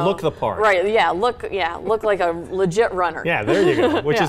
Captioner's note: laughs